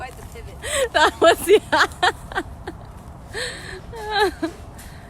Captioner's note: laughter